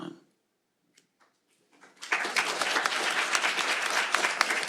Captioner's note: applause